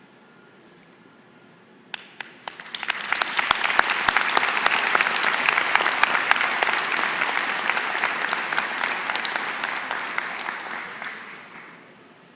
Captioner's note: applause